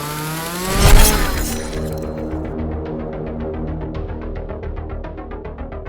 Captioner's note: chainsaw clatters; chainsaw rattles